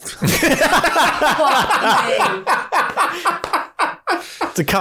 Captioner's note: laughter